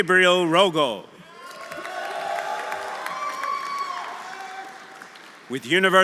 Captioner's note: audience cheering; audience applauding